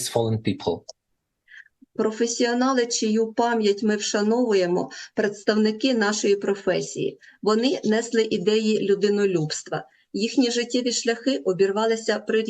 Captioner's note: foreign language